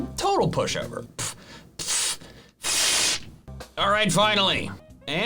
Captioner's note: scoffs